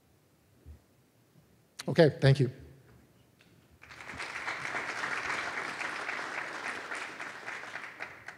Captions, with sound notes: Okay, thank you >> [APPLAUSE]